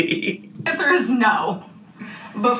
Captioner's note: laughing